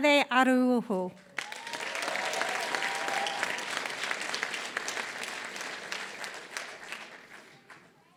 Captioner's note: applause